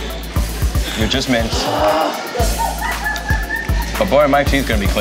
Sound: groans, laughs; laughs

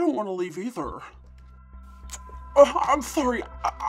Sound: kisses

